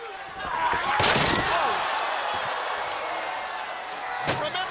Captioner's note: table smashing